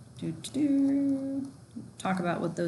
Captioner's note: hums